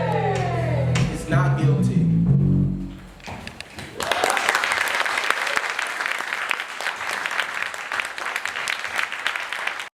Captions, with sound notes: IS NOT GUILTY. *APPLAUSE!* THANK YOU SO MUCH FOR WATCHING! FOLLOW US FOR MORE! WE'RE COOKIN UP COOL STUFF!